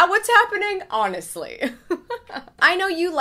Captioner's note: laughs